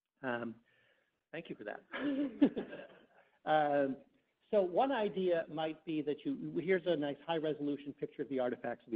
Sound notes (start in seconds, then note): 1.9 everyone chuckles